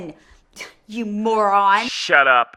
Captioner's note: scoffs